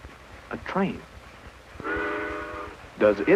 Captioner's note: train horn toots